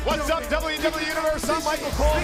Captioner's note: crowd cheering